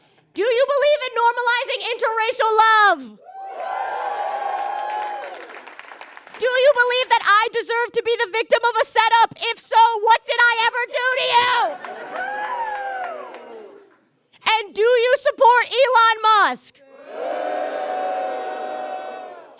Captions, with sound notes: Do you believe in normalizing interracial love? (audience cheers and applauds) Do you believe that I deserve to be the victim of a setup? If so, what did I ever do to you?! (audience cheers and jeers) And do you support Elon Musk? (audience boos)